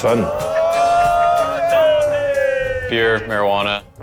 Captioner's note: loud cheering